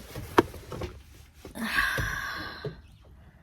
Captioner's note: sighs